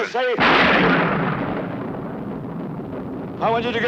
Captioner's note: lightning thunders